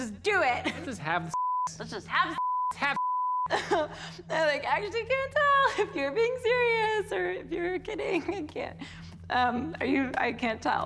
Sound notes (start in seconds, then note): 3.5 chuckles